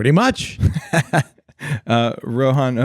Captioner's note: laughing